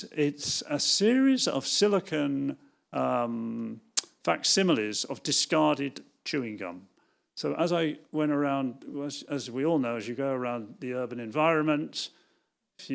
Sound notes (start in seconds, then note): none